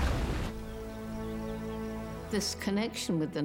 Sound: birds chirping

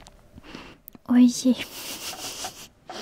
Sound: laugh

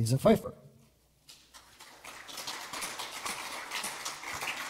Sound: audience applauds

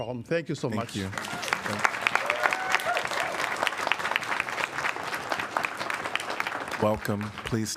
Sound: applause

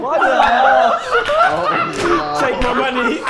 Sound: Sidemen laughing

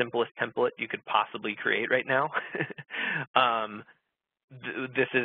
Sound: laughs

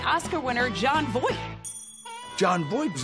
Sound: ding

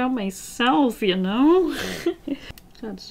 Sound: laughs

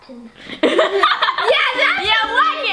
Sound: laughing

